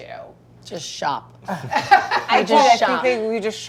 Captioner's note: laughter